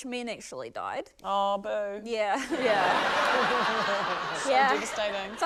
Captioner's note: laughter